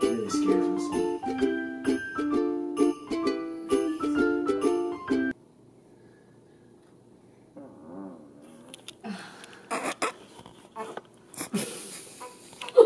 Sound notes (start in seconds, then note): 5.1 music cuts; 7.6 farts; 8.5 all trying to hold back laughter; 11.4 laughs